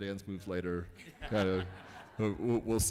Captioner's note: laughing